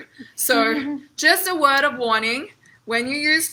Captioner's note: chuckles